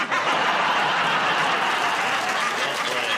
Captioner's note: laughter, applause